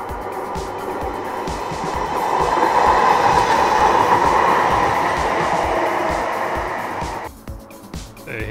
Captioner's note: more tram rumble